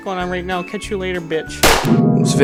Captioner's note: gunshot